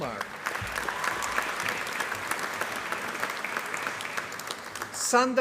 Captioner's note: applause